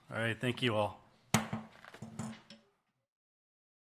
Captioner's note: gavel